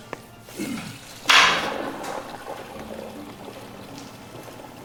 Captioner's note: toilet flushing